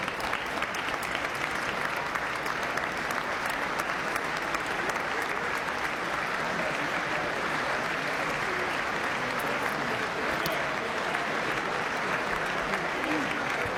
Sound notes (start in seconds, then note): 6.0 applause